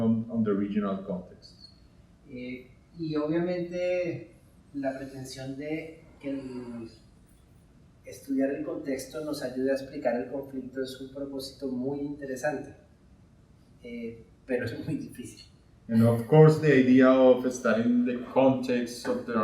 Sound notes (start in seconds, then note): 2.5 speaking in Spanish